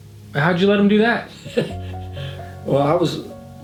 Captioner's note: chuckling